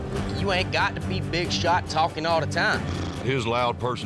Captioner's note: blows raspberry